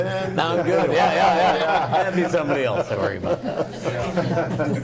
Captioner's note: group laughing